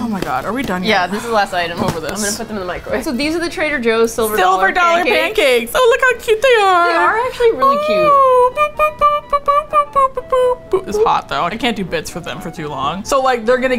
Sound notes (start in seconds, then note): 0.9 sigh; 8.3 babytalk